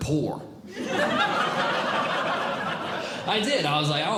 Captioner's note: audience Laughing